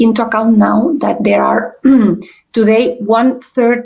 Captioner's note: clears throat